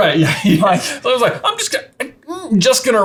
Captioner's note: laughing